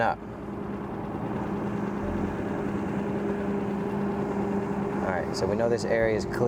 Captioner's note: motor droning; gentle music continues